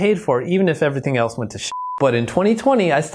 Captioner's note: beep